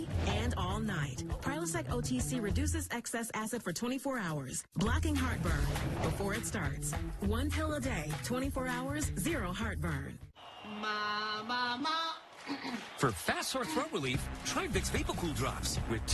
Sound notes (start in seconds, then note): 12.5 clears throut